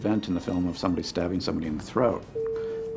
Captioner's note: dings